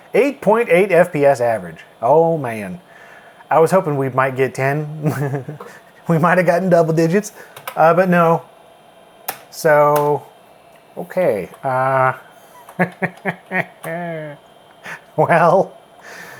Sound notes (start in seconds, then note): 5.0 chuckles; 12.5 laughs